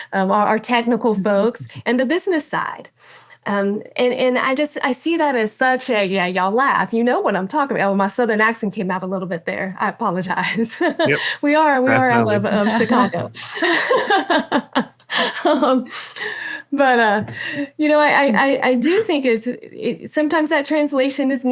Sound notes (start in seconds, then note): 1.3 laughs; 10.7 laughs; 11.9 laughing